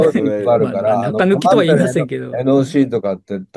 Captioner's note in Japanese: 笑い